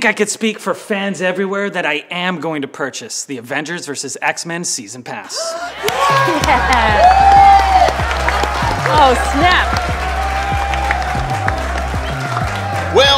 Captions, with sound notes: - I think I could speak for fans everywhere that I am going to purchase the Avengers versus X-Men Season Pass. (crowd cheers) - Yeah. Oh, snap. (crowd claps)